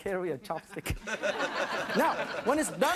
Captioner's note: audience laughing